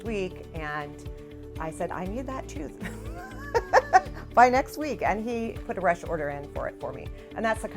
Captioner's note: laughs